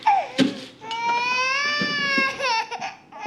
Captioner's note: molly continues crying